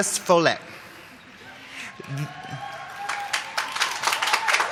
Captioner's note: applause